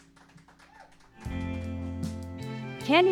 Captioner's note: applause